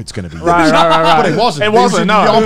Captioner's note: murmurs